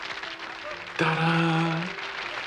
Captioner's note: applause